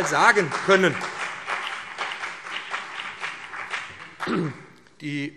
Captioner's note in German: Beifall BÜNDNIS 90/DIE GRÜNEN und CDU